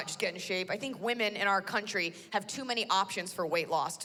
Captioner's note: none